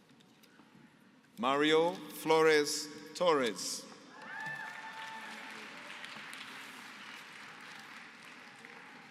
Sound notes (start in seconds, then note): 4.2 applause